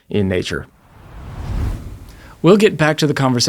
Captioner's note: screen whooshing